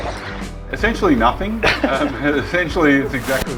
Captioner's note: laughter